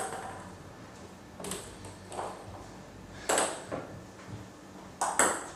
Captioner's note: balls ping pong hitting continues